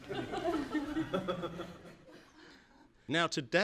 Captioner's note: laughter from audience